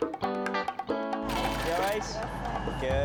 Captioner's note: upbeat music; text clicking